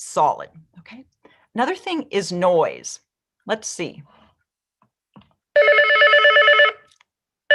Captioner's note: phone rings